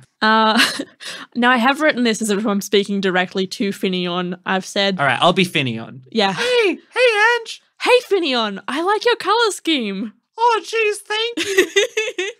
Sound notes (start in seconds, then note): 0.6 laughing; 6.5 high voice; 10.6 high voice; 11.4 laughing